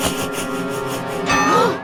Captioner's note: gasps